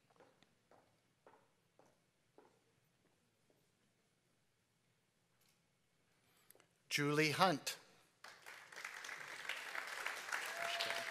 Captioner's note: applause